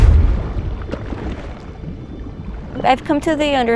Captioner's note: underwater sounds